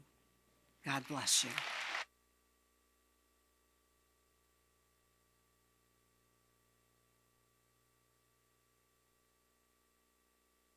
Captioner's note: applause